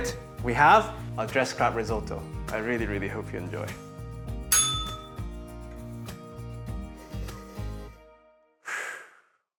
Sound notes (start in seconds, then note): 4.5 bell rings; 8.7 sighs